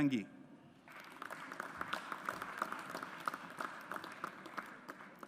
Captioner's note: audience applauds